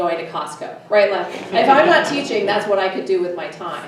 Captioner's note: everyone laughs